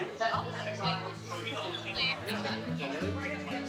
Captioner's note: indistinct chatter